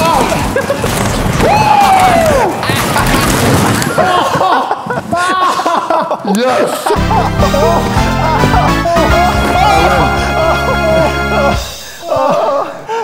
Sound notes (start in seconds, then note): 5.0 laughing; 9.4 pained laughter